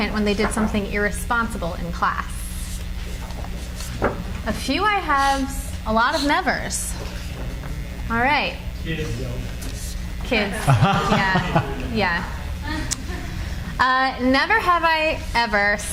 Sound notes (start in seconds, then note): 3.2 cards flutter; 10.5 laughs